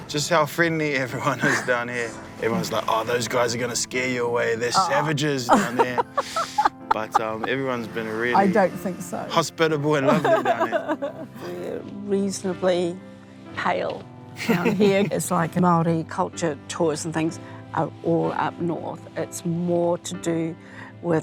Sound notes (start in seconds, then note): 5.4 laughs; 10.0 laughs; 14.4 laughs